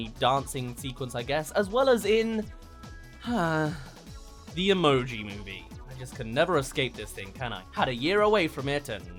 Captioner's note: sigh